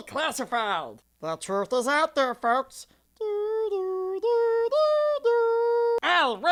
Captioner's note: hums theme